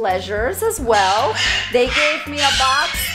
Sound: bird squawking loudly

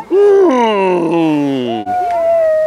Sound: speaker vocalizing; child vocalizing

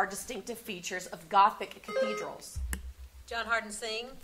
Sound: buzzer sounding

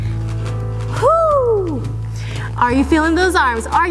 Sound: exhales

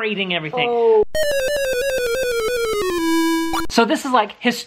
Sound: game noise

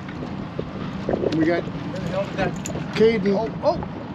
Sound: clattering

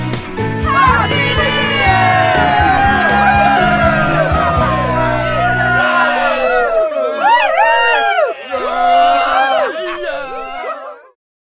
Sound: cheers

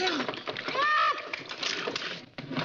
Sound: groans

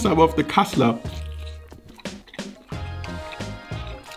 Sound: chewing

